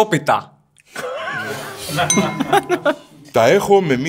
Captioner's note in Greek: γέλια